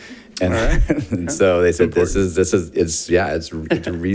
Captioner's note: laughs